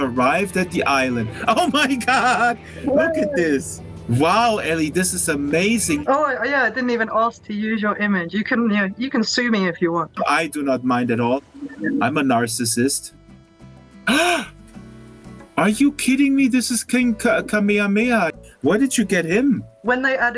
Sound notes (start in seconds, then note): 1.2 laughs; 14.0 gasps